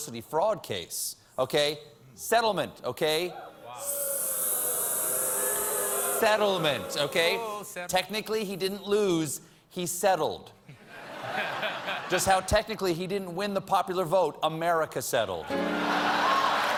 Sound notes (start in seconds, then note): 6.4 audience booing; 15.6 applause